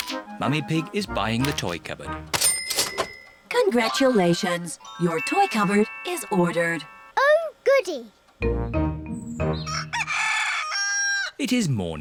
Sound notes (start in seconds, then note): 9.6 cockerel crows